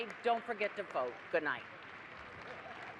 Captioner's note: applause